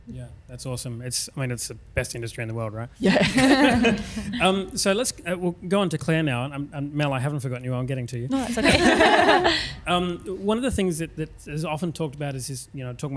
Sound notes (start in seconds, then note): 3.0 panelists laughs; 8.3 panelists laughs